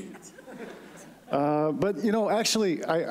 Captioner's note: laughter